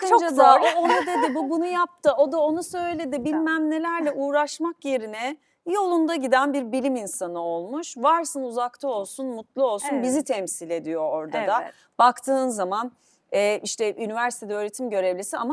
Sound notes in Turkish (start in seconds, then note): 0.4 kahkaha